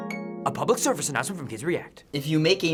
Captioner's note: soft harp music; voice-over